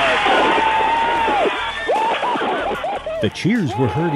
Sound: big Cheers and Applause

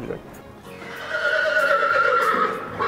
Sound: horse makes noise; neighhhhhh

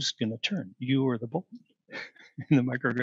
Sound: laughter

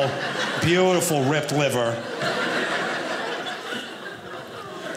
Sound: audience laughing

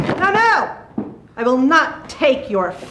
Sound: chairs clacking

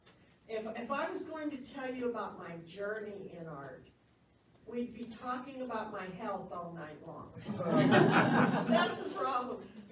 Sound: laughs

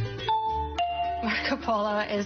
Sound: dings

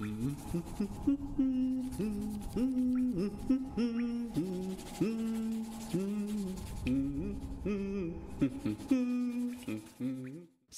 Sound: humming

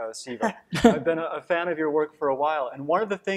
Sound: chuckling

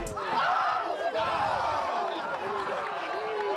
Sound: players cheering

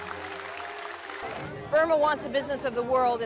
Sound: applause

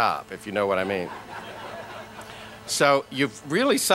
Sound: laughter

